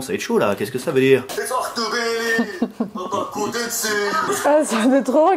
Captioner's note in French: rire